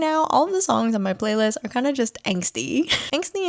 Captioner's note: laughs